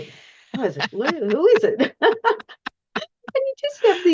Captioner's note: laughs